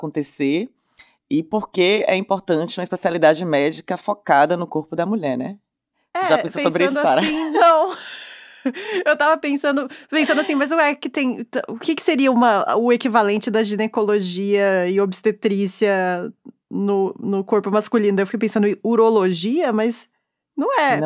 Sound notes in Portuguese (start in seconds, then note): 7.0 risos